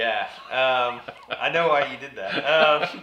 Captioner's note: laughs